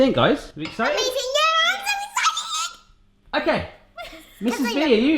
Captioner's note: squealing